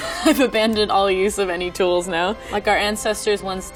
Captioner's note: laughing